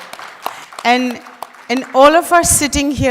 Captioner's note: applause